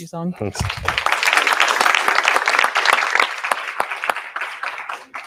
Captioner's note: applause